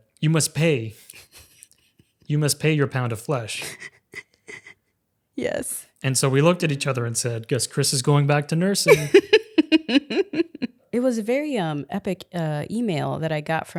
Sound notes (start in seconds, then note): 8.8 laughing